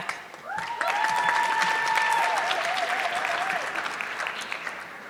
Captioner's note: audience clapping